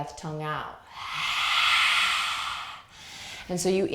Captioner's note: exhaling breath